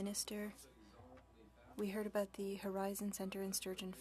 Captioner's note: speaking French